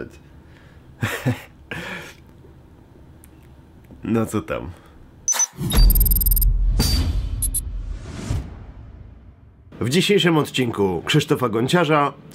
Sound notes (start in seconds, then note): 1.0 laugh